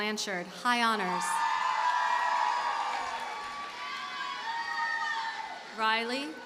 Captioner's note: audience cheers and applauds